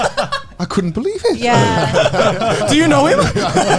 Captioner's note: all laughing